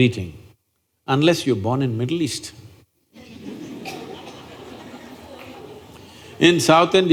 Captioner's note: few Laugh